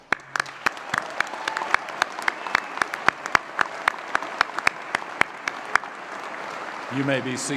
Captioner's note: applause & Cheering